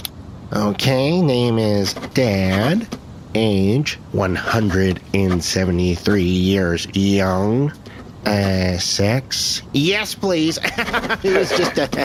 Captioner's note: laughs